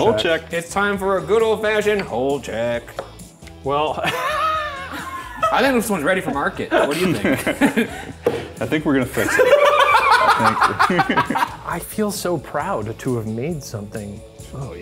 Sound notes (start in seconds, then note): 4.0 laughing; 9.2 laughing